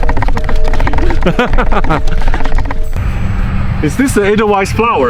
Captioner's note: laughs